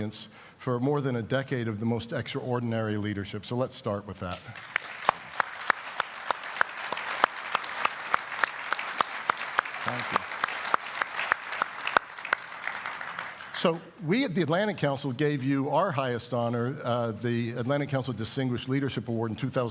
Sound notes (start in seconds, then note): 6.0 applause